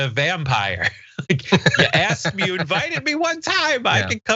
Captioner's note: laugh